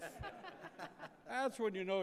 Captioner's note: attendees laughing